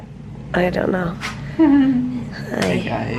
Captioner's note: chuckles